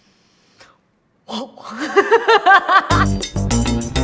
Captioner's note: laughing; lively music